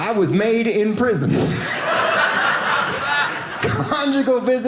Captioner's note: audience laughing